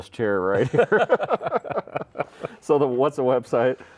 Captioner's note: laughing